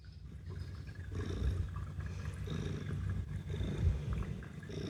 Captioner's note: loud purring